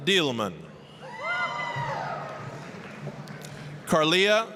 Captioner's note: applause, cheering